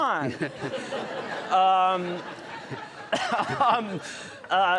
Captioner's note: audience laughing